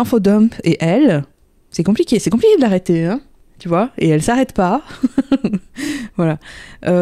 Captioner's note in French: rire